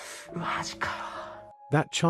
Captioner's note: sigh